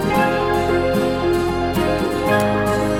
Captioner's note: applause